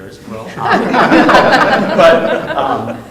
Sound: all laughing

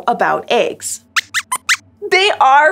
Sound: squeaks squeaks

